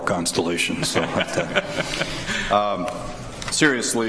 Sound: laughs

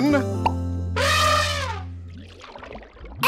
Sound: elephant horn

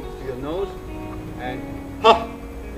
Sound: exhales

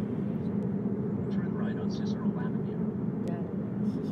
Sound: GPS talking

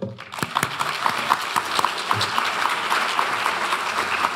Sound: audience applauds

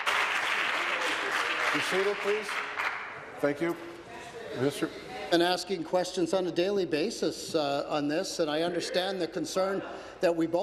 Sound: applause

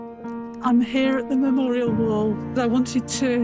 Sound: voice of a woman

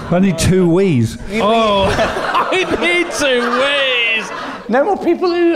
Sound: laughing

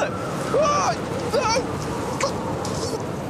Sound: yells

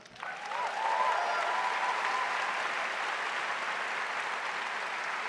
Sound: audience applauding

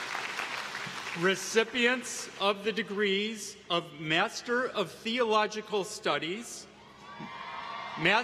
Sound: applause

